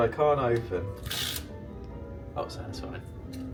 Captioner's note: room key tears open